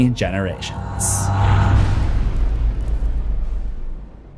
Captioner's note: impact